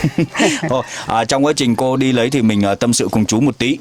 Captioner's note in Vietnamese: tiếng cười